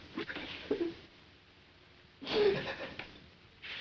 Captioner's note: hindley sobs